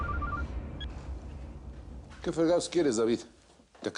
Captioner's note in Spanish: Suena el celular